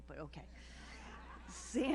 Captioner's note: audience laughs